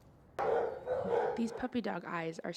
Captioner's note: barking